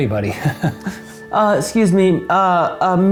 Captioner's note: giggles